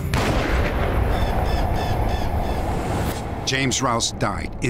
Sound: gunshot

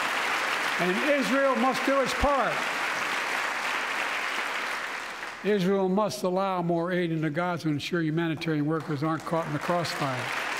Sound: applause

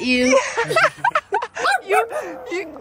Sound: laughing

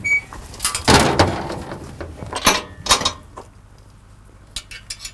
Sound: metal clanking

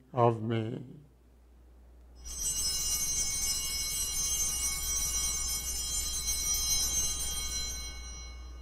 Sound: bells ringing

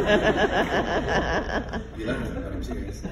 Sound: laughing

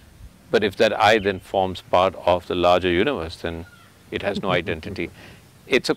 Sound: Sadhguru Laughs

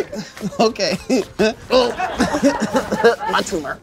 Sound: laughter

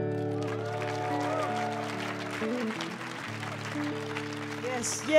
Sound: audience cheering

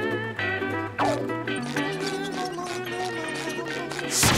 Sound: humming

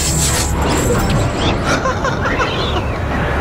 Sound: laughing

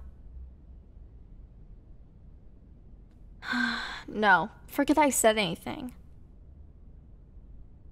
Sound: sigh

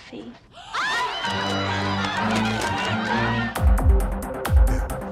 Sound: crowd screaming

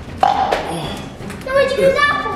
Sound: burps; glass hitting counter; exhales

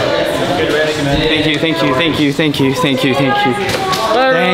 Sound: makes a lot of noise as he leaves

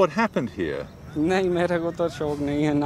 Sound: speaking hindi

